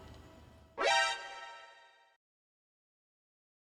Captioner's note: alarm sound